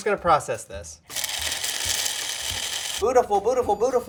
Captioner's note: grinder whirring